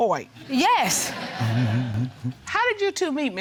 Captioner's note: audience laughing